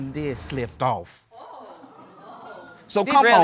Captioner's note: audience exclaims